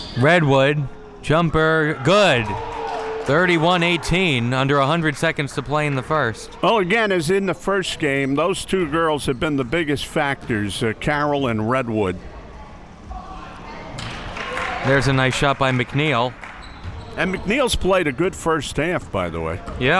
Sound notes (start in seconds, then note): 14.0 spectators applauding